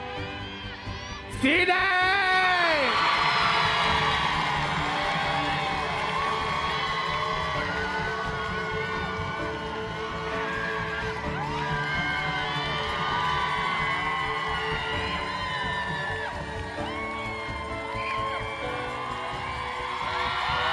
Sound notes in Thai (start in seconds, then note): 2.9 ปรบมือ; 13.4 ปรบมือ